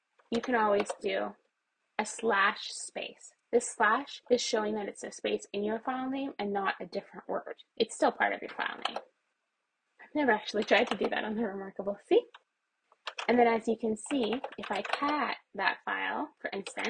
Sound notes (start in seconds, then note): 8.8 keyboard key pressed; 13.0 keyboard keys pressed